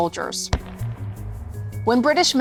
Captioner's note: gun blasting